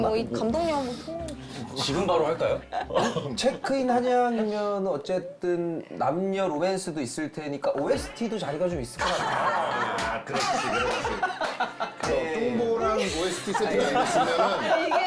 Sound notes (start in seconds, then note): 9.0 laughs